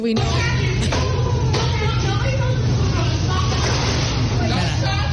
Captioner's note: yelling